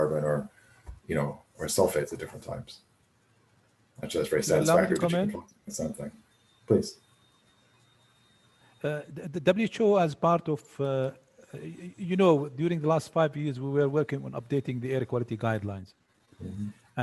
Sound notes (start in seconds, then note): 4.0 chatter